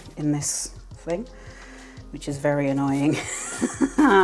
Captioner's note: aggravated laugh